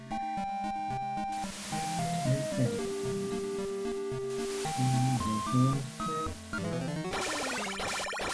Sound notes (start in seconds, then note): 1.9 humming along